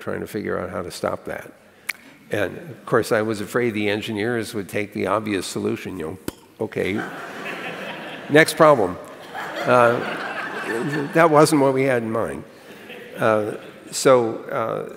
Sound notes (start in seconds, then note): 6.2 makes popping sound; 9.0 laughter